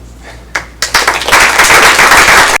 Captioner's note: applause